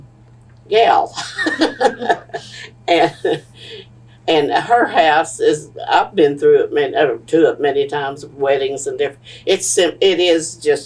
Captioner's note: laughter